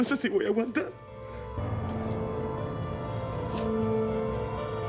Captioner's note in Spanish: Solloza